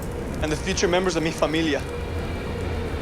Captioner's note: speaking Spanish